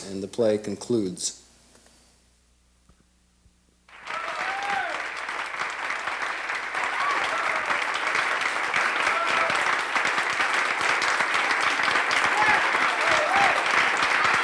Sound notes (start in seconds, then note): 4.2 audience applauding and cheering